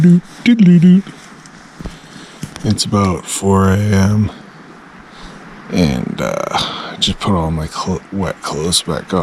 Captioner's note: sound effects